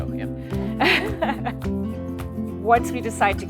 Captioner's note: both laughing